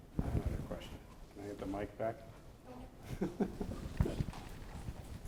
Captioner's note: laughs